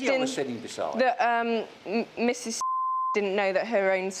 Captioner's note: beep